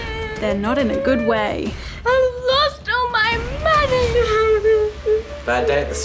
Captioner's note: sobs